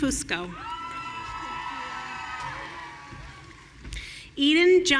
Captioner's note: audience cheering